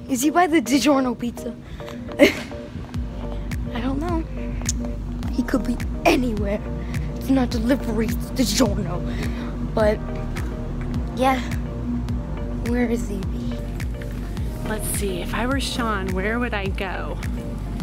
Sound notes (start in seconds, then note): 2.1 boy laughing